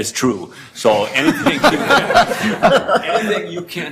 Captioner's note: members laugh